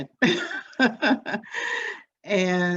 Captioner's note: laughs